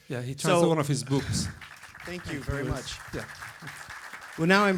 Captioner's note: applause